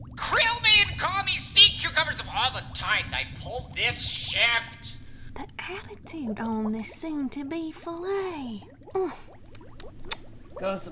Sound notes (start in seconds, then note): 6.3 whispering